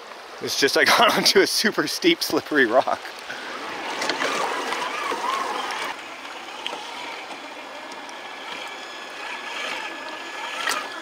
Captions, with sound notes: It's just like (chuckling) into a super steep slippery rock. (tires squealing)